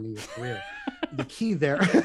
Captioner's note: laughter